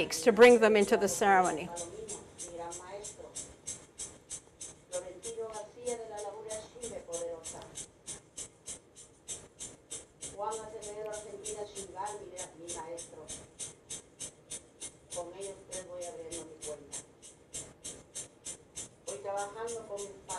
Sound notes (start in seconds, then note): 2.0 shakers rattling; 2.0 speaking in foreign language